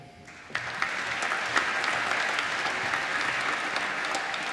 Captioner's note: applause